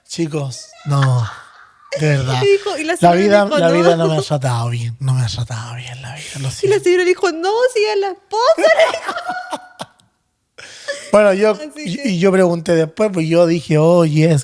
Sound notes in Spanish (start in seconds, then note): 8.5 risas